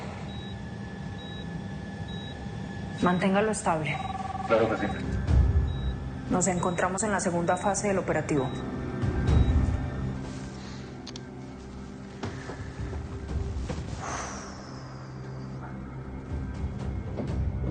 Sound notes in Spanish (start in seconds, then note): 0.1 Sonido de la telemetría; 3.9 Suena un celular